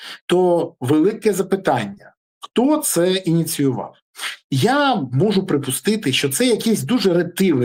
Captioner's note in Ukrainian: сопіння